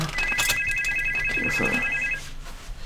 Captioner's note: phone ringing